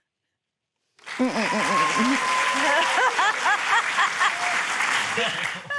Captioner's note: cheering, applause; laughs